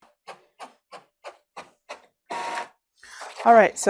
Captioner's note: printer whirring